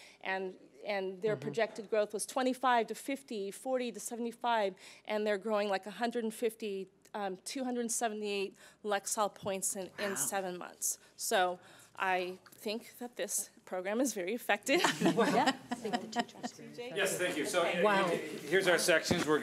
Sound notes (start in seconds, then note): 14.8 chuckling; 16.3 speech drowned out by laughing